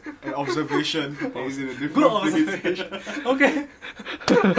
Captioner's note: laughter